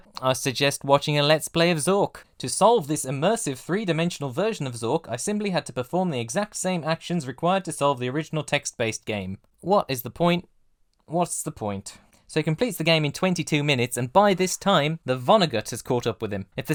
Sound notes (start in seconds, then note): none